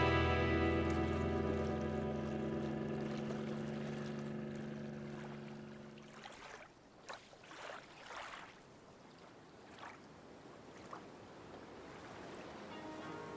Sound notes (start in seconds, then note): 1.6 engine growling